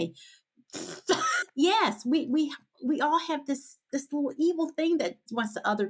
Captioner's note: blows a raspberry